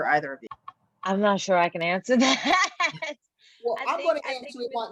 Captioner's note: laughs